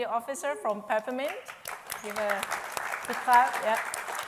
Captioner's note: applause